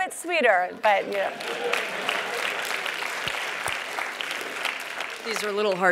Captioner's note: applause